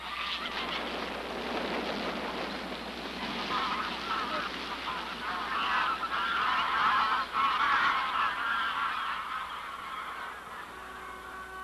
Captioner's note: geese Wings Flapping, Cawing